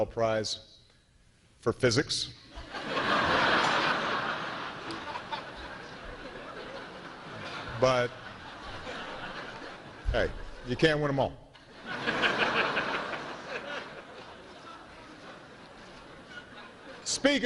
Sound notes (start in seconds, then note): 2.5 laughter